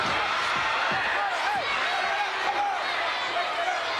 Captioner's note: crowd cheering